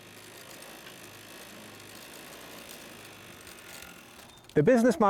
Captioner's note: sewing machine whirring